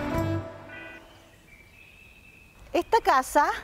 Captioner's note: idyllic chirping of birds